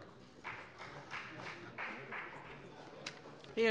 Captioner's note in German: Beifall bei der FDP